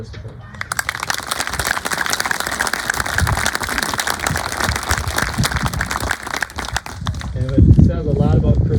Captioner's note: applause